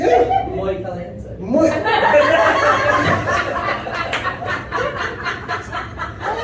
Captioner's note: uproarious laughter